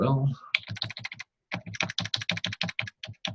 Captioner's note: typing on keyboard